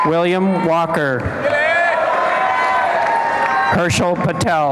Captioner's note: applause and cheering